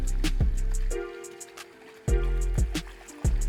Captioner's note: water sounds